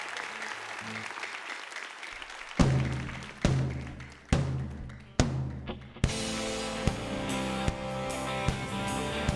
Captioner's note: applause; rock song